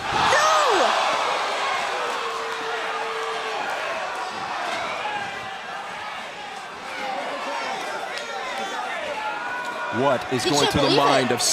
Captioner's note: crowd cheering